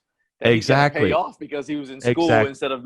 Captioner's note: murmurs